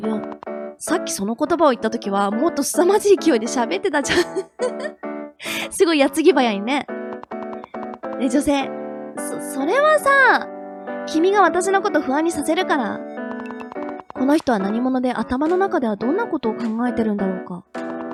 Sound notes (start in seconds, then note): 6.9 laughs